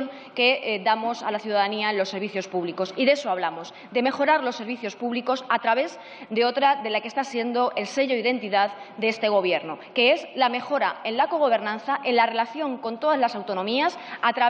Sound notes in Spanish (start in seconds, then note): none